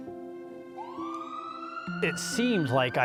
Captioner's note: ambulance siren blaring